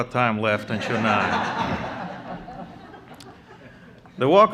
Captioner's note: laughter